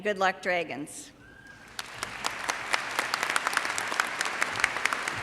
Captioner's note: audience applauds